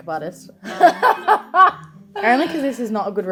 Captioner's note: laughing